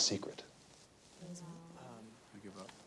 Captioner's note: students murmur